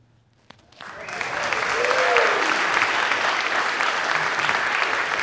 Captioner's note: applause